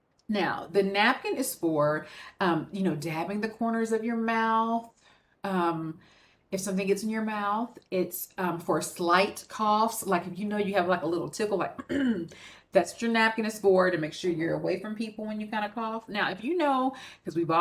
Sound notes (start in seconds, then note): 11.8 clears throat